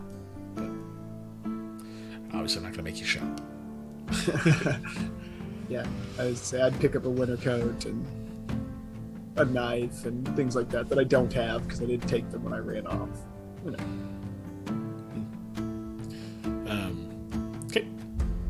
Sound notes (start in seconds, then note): 4.1 laughs from both